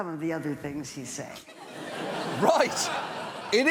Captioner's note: studio audience laughs